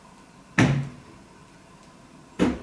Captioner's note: suitcases falling down